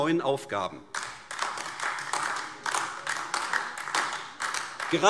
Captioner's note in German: Beifall AfD